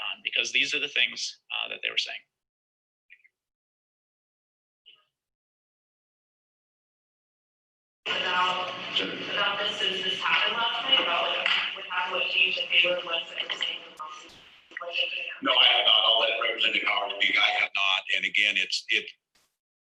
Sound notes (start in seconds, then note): 10.8 away from the mic